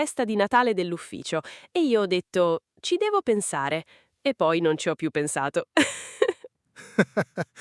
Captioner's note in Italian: risate